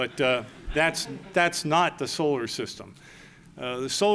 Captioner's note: laughter